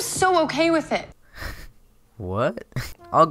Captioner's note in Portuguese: rindo de nervoso